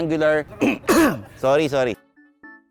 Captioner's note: coughs